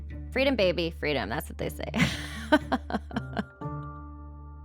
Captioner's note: laughing